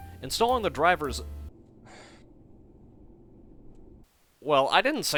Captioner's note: audible sigh as the drive tray gets stuck